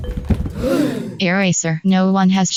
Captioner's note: gasp